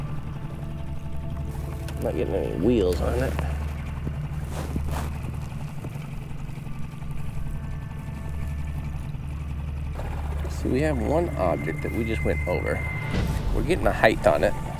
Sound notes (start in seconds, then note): 4.9 engine chugging; 4.9 somber orchestra music